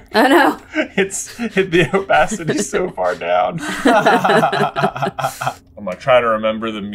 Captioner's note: laughter